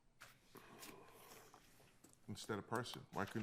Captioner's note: papers rustling